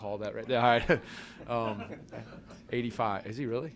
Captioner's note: laughter